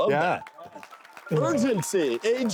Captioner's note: applause